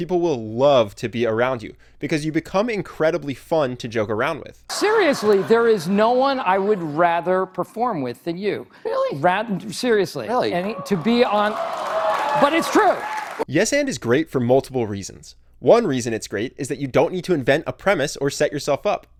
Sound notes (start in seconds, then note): 10.5 audience cheers